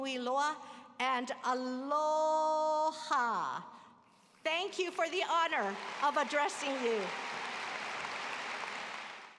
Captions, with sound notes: Thank you for the honor of addressing you. [APPLAUSE]